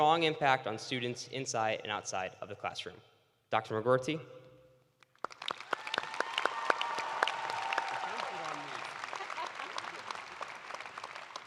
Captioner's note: cheers and applause